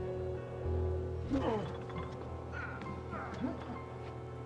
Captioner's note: struggles less audible